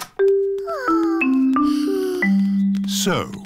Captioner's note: peppa and george sigh